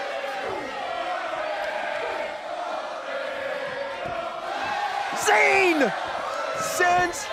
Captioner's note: crowd cheering